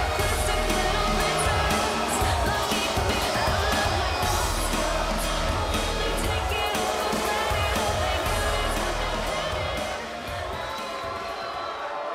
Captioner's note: cheers and boos